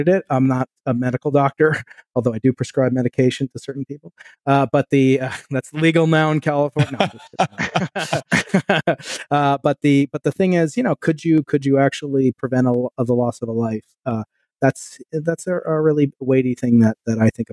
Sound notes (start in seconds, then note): 6.7 laughing